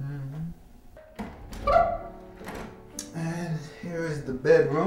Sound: door squeaking

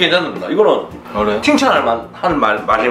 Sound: disappointed

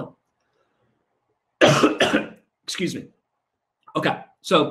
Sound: coughs

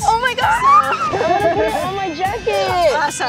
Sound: laughs

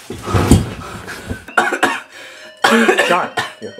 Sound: coughs

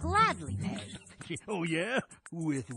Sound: chuckling

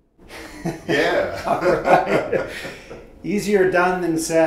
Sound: both laughing

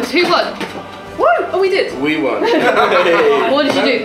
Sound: laughter

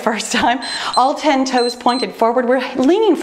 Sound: timer beeps

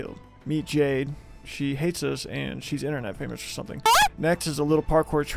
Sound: moans

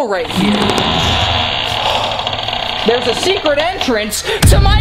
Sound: door creaking

